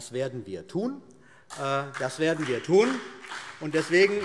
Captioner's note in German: Beifall CDU und BÜNDNIS 90/DIE GRÜNEN